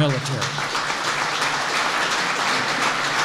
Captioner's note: applause